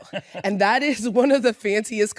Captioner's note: laughs